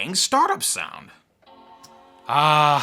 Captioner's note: computer startup sound